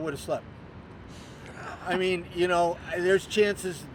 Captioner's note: laughter